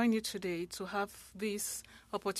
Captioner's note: speaking French